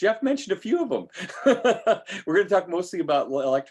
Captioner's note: laughing